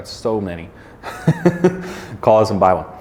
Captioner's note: chuckling